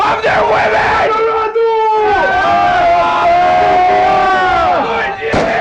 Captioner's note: yelling